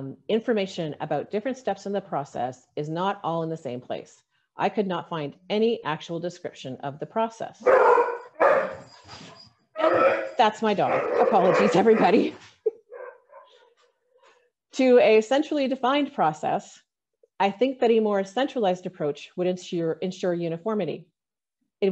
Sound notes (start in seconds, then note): 7.6 dog barking